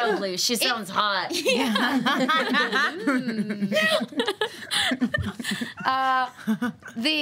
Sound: all laughing

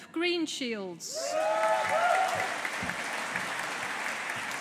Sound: audience applauding

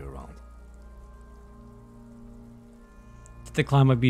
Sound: silence

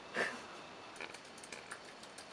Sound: laughs

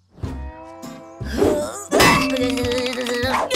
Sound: grunting

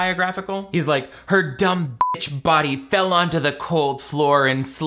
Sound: beep

